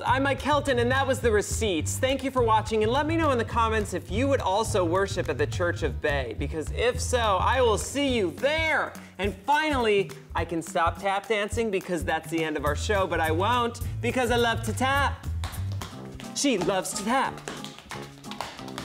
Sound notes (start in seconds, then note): 17.2 tap dancing